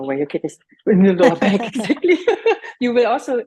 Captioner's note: laughing